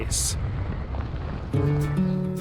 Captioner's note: car rolling; upbeat acoustic guitar music